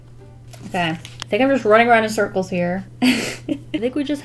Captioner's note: laughs